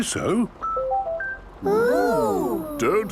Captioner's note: car chiming